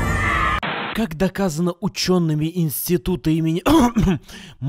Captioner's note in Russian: кх-кх